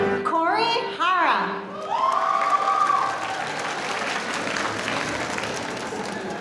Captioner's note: audience cheering